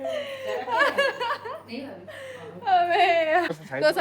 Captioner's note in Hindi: हंसी